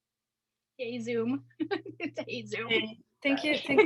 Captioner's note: laughs